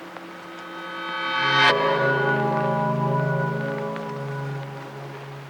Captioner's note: electric pulse